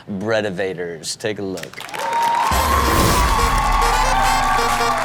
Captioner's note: audience cheers